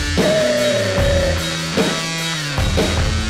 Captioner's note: howls